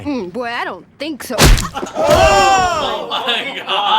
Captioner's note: smack